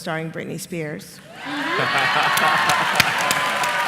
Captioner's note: laughter